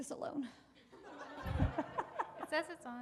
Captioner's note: audience laughing